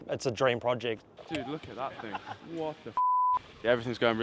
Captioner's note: beep